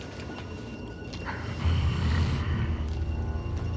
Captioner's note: hisses